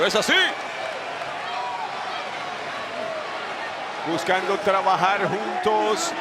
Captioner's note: applause